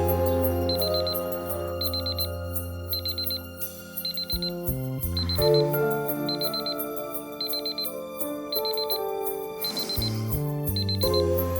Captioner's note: alarm going off